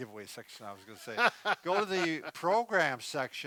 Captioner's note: laughing